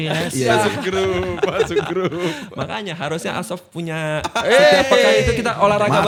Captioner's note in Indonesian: tertawa